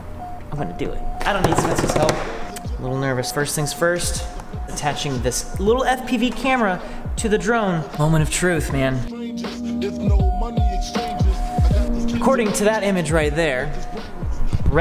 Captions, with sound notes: I'm gonna do it. (finger taps the table) I don't need Spencer's help. Little nervous. First thing's first attaching this little FPV camera to the drone. Moment of truth, man. (Hiphop music) According to that image right there,